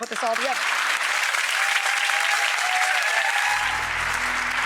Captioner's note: audience applauding